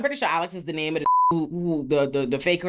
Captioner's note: beep